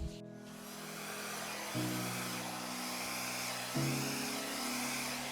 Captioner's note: blower blows; gentle music